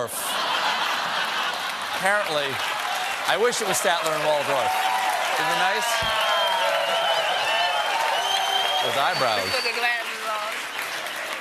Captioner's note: laughter